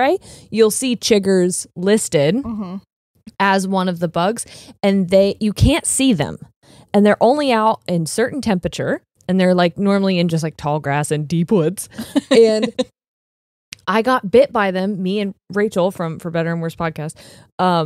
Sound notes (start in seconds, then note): 11.8 laughing; 12.9 snaps fingers